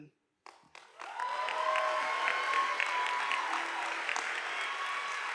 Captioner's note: audience applauding